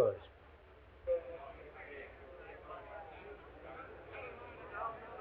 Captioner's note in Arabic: الناس يتحادثون